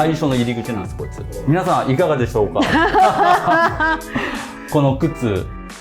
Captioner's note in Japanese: 笑い